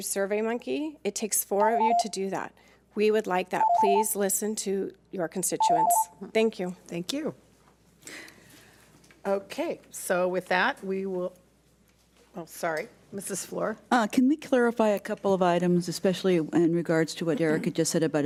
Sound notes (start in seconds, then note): 3.6 beeps